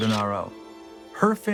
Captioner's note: camera flashing